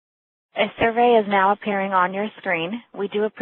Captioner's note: voiceover